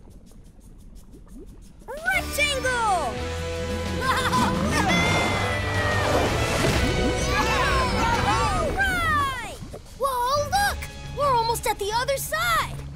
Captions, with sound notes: Rectangle! Wahoo! [cheering] Whoa, look! We're almost at the other side.